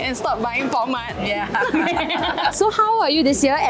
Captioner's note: laughs in sadness